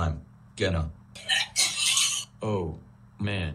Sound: barfing

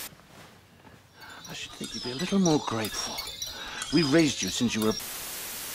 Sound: crystaI ball sounds

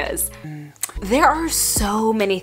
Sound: clicks tongue

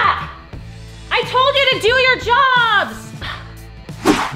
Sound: sighs; air whooshing

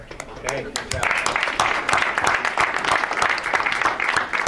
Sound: audience applauds

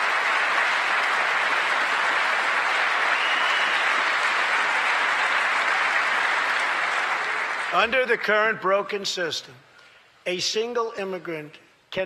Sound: applause

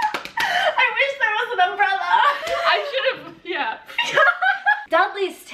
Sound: laughing; laughs

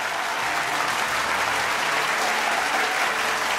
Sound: applause and cheering continues

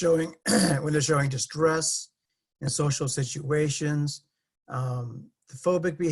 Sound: cough

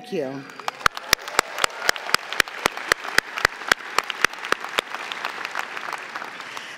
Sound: audience clapping

